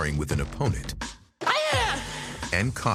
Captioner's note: shouts